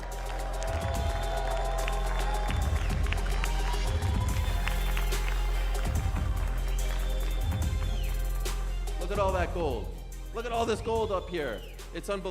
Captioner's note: cheers and applause